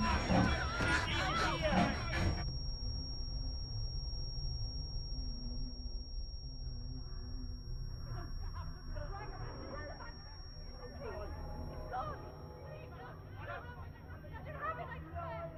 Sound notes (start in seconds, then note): 9.4 distorted shouting; 13.6 faint shouting in distance